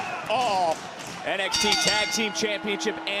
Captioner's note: bell rings